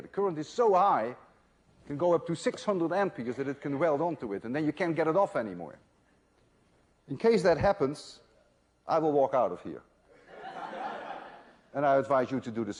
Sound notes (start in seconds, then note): 10.2 laughter